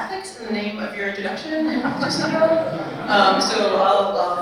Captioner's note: attendees laughing